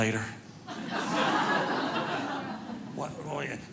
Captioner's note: audience laughing